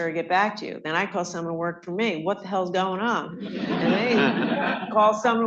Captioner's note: laughter